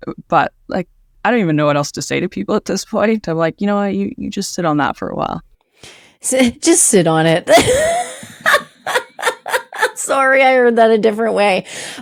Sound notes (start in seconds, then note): 7.5 laughing